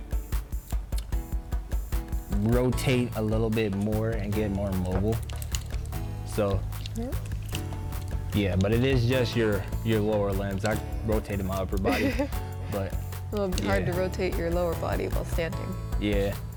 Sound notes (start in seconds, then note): 11.8 laughs